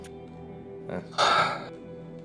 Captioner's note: sighs